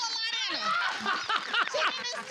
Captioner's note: laughs